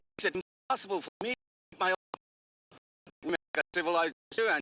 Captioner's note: Chinese